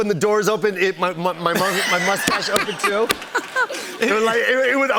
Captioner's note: laughter